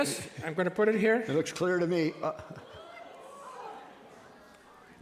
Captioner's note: and audience gasp